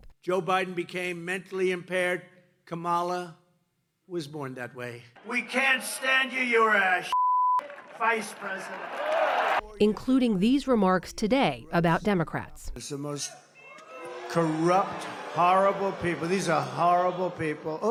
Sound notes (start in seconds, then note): 9.8 cheering